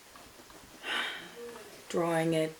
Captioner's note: sighs